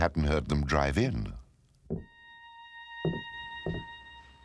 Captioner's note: footsteps thudding